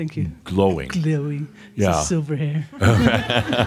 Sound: laughter

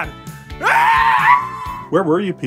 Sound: screaming muffled

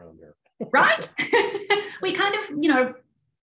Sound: laughter

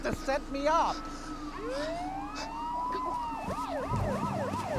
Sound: sirens wail

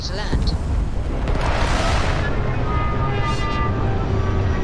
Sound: engine whining

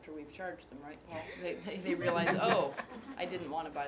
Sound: laugh

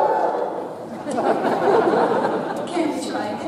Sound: audience cheers; audience laughs

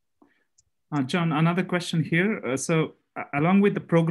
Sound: calm Voice

